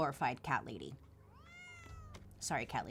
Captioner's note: cat meows